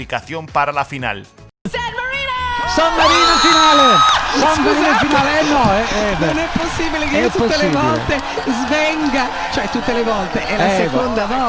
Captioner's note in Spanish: Grito